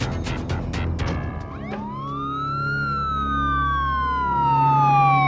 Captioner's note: dramatic music; sirens wail